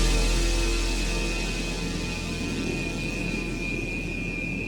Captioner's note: dramatic music; jet screeching